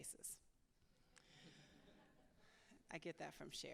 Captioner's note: laughter